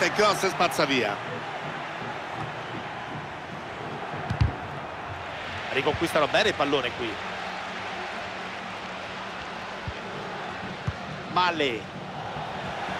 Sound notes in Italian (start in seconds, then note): 9.1 Applauso